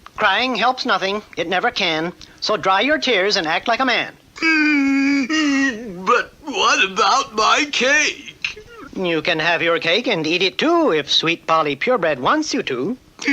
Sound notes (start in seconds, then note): 4.4 King Cup stops crying